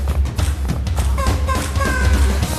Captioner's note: vocalizing